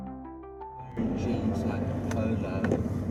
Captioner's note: background voices over ambient music